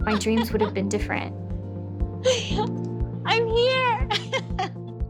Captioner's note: laughs